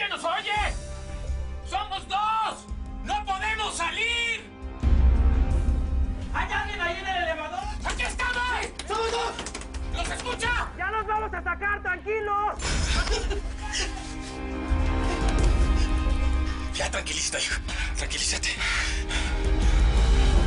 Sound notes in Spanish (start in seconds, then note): 12.7 Risas